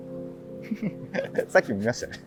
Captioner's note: laughing